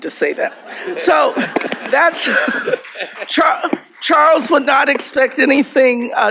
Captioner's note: laughter